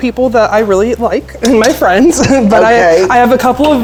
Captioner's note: laughing